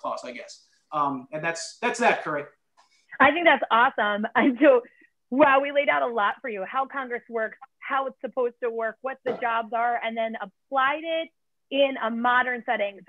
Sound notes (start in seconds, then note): 4.4 laughter